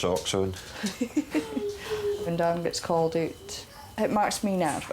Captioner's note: laughs